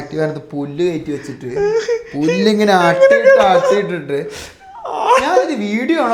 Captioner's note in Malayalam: പൊട്ടിച്ചിരി